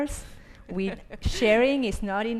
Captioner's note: laughs